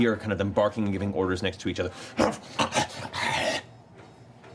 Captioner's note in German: wildes Bellen